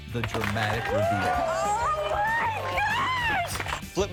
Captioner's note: crowd applauding